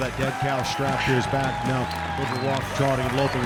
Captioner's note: hoofbeats, crowd cheers